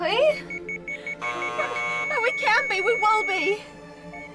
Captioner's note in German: Maschinenton